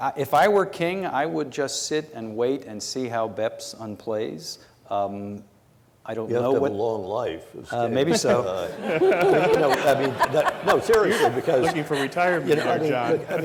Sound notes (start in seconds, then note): 7.8 congregation laughs